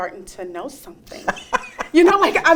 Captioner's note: interviewer laughs